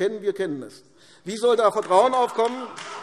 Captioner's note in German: Beifall AfD - Lachen CDU